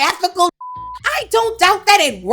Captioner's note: beep